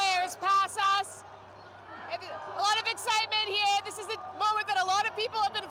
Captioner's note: yelling